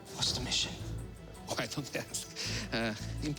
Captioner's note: chuckling